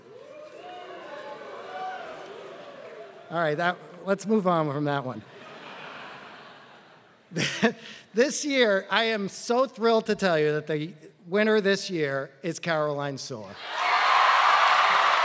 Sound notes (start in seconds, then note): 5.5 laugh